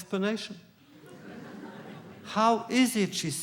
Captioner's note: laughter